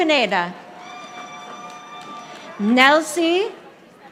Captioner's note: audience applauding